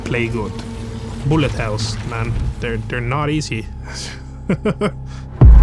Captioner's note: laughs